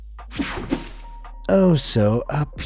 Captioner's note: page swishing; page whooshing